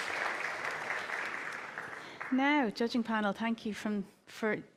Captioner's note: applause